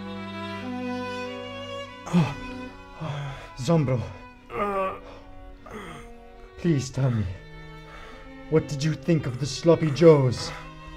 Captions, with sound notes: Zombro. *zombro groans* Please tell me. What did you think of the sloppy joes?